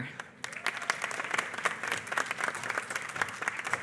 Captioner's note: applause